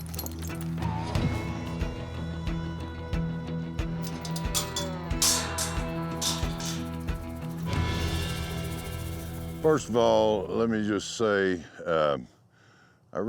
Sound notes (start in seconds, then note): 4.0 gate clanks